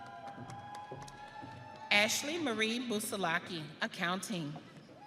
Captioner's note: audience cheering